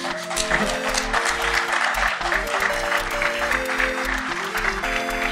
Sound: audience applauding

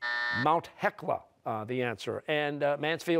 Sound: buzzer

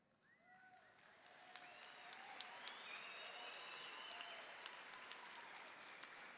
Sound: audience cheering and applauding

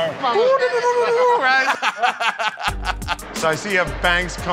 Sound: laughter

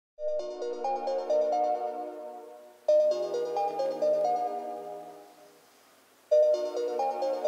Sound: alarm clock ringing

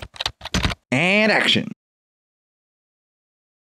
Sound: typing

